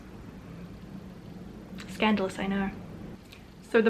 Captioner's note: Sarcastic